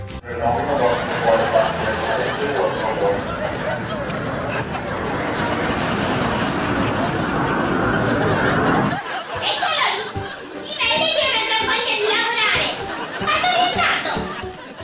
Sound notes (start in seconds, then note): 0.6 airport sounds on background; 12.6 laughter